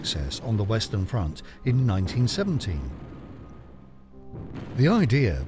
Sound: explosions boom

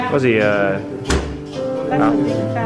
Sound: thud

